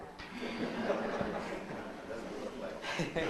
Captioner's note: all laughing